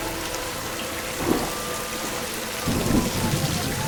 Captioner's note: sirens blaring